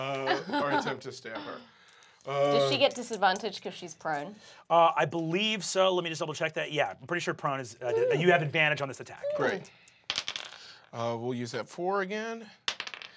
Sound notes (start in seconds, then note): 10.1 die clacks